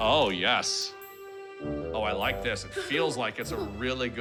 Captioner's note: giggles